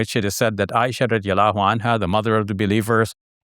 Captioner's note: speaking Arabic